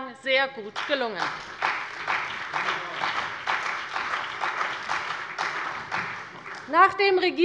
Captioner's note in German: Beifall bei der CDU und dem BÜNDNIS 90/DIE GRÜNEN